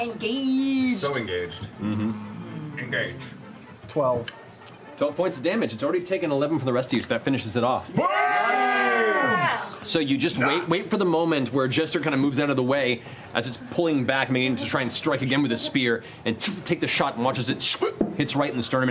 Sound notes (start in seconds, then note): 2.9 Picard voice; 7.9 cheering